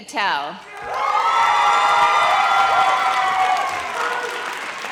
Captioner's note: audience cheers